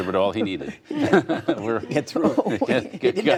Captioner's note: laughter